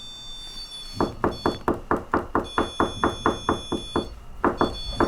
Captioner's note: knocking